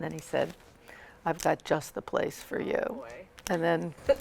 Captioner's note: laughs